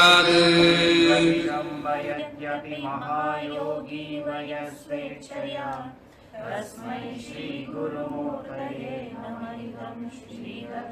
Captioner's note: chant